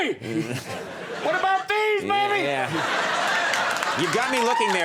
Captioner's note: audience laughs